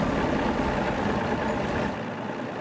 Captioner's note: boat engine starting